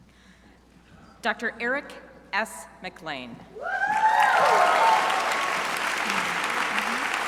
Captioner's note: crowd applauding